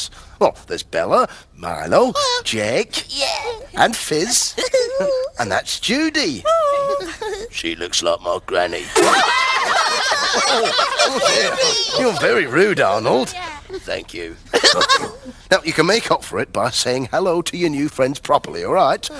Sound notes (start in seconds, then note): 8.8 laughing